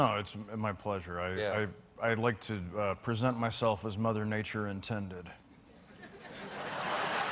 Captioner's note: laughter